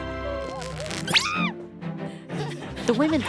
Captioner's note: screams